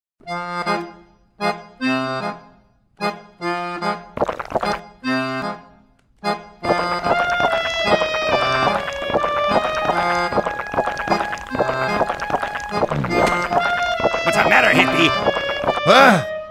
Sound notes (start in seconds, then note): 4.2 drinking; 12.8 derp sound